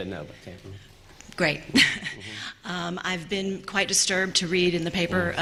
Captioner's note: laughter